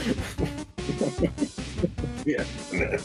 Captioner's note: laughter